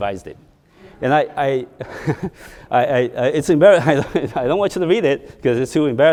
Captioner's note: chuckles; audience laughing